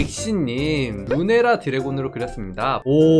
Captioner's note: voiceover